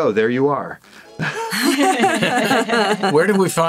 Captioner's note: all laughing